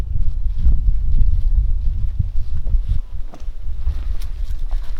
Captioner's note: wire mesh crackling